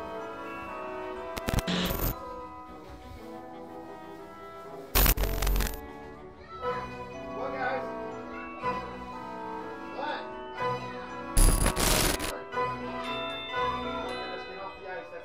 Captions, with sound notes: (girl yells) Come on guys. What? (music drowns out talking)